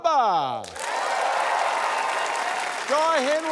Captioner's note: cheering, applause